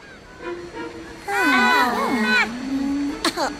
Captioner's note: all murmuring